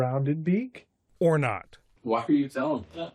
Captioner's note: voice-over